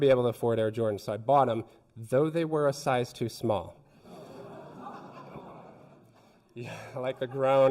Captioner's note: audience titters